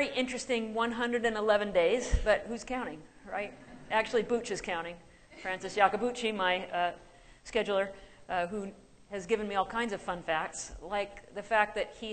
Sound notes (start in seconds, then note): 3.7 laughter